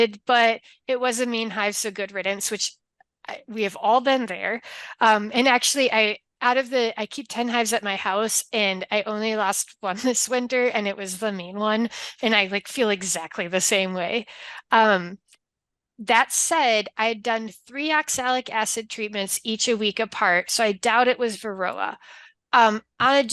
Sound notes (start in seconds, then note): none